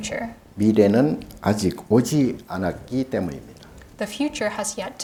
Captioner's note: speaking Korean